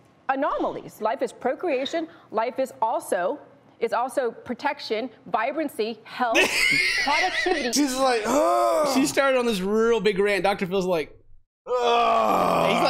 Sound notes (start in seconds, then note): 6.3 laughter; 8.2 moan of misery; 11.6 more Moans of Misery